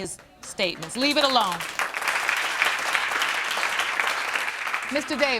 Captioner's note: applause